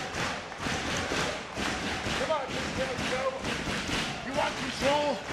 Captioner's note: audience cheering